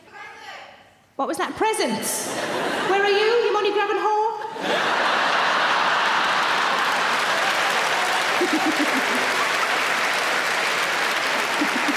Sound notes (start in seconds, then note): 4.4 audience laughing; 6.7 audience applauding